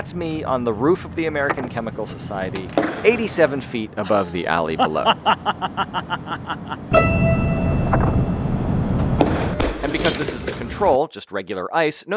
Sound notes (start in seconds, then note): 0.0 saw whirs; 5.4 man laughs